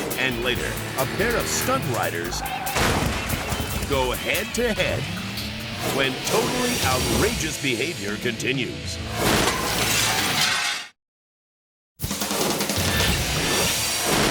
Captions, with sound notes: And later, a pair of stunt riders (bikes crashing) go head to head. When "Totally Outrageous Behavior" continues. (metallic clattering) (glass shattering)